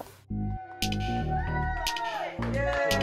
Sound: cheers

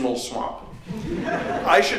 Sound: laughter

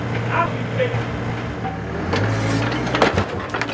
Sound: shouting

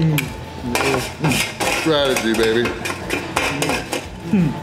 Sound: pan clanking noises

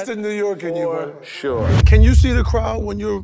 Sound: wind whooshes

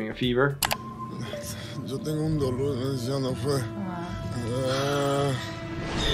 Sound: speaking foreign language

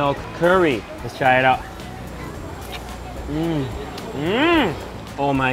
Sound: murmurs

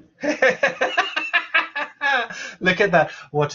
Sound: laughs

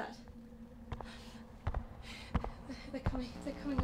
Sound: footsteps

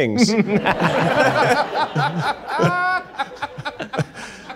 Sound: all laughing

